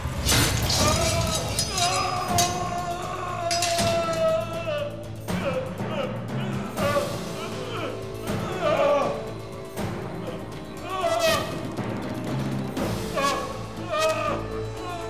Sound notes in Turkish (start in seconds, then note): 0.1 Kılıç sesleri; 0.3 Çığlık sesi; 8.4 İnleme sesi; 14.6 Müzik - Gerilim